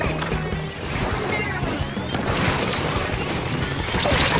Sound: multiple splats

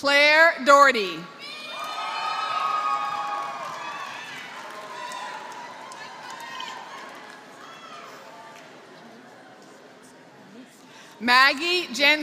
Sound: applause

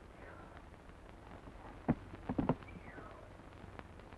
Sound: Natalie sighs

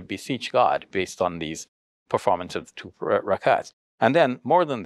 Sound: speaks foreign language

